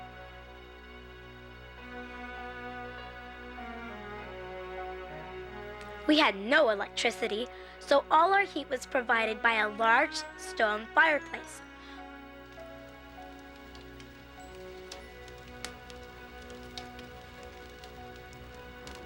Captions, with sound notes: We had no electricity, so all our heat was provided by a large stone fireplace. (flames crackling) (lively music)